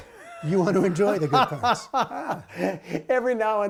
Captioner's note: laughter